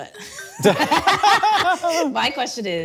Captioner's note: both laughing